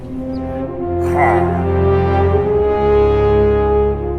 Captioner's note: pillager noise